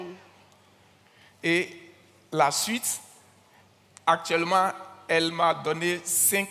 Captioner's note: continues in French